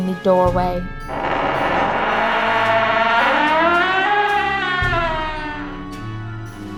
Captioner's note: door creaking